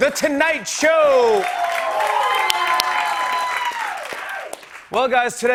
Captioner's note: cheers and applause